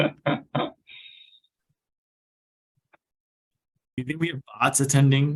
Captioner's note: laughing